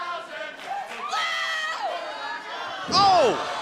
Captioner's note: fans chanting